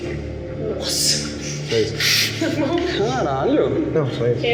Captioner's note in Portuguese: risos